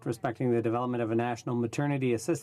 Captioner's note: speaking French